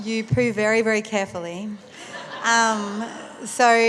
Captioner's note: laughter